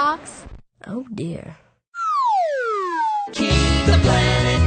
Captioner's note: record scratch; slide whistle